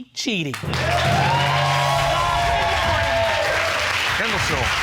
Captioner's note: cheering